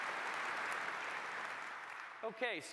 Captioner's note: applause